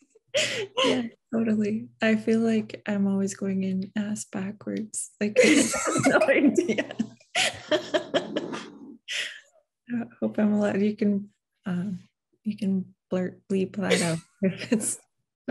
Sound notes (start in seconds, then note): 4.2 giggles